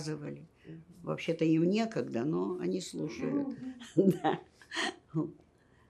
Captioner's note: laughing